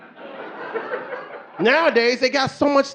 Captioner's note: audience laughing